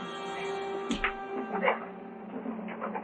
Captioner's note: scuffling